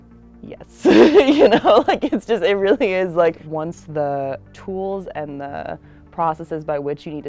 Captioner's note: laughing